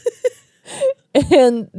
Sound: laugh

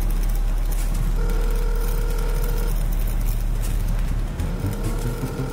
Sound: dial tone rings

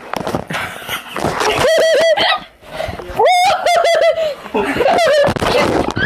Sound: laughs

